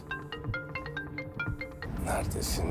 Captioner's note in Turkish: Telefon Çalıyor